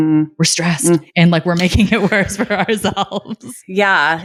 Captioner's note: laughing